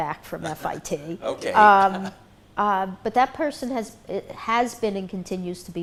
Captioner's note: laughs